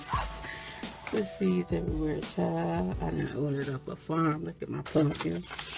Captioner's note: laughing